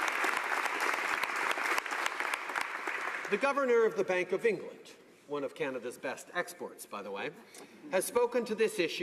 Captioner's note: applause